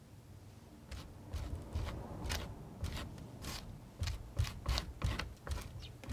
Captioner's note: scratching